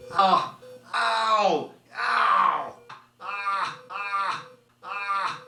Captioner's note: groans and exclaims